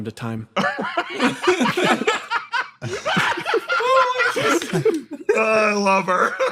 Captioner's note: laughs